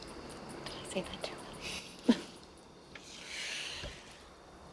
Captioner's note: whispering; laughs